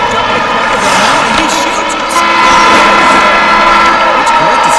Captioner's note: buzzer sounds